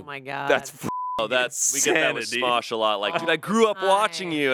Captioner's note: beep